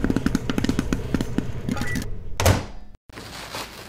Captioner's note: popcorn popping; rips